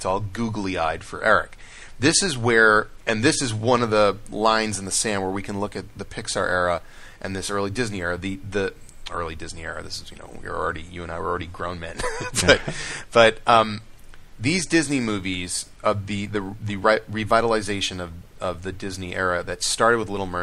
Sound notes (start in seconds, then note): 12.0 laughs